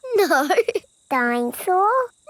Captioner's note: laughing